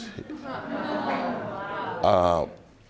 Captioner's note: audience murmuring